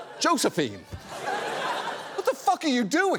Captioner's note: audience laughs